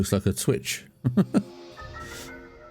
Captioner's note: laughs